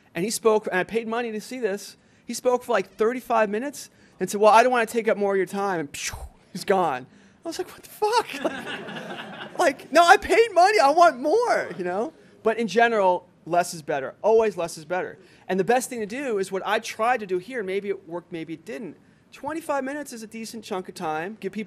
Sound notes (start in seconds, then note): 8.2 laughter